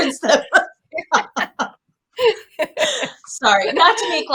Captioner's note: laughing